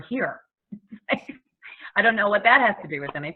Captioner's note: laughs